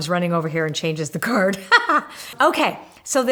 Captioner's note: laughs